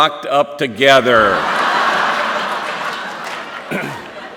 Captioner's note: laughter